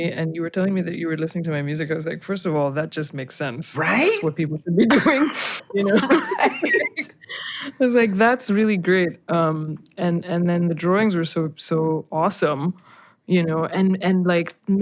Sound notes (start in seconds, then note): 5.8 laughter